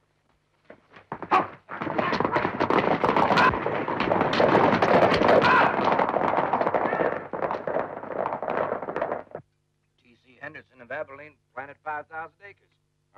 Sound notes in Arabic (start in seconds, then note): 0.6 الخيول تركض